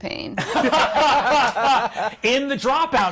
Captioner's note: others laughing